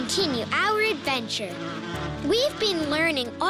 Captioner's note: bee's buzzing